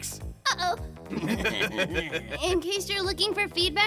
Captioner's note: evil giggling